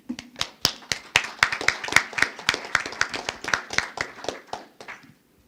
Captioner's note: audience applauding